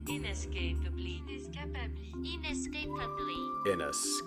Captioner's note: voices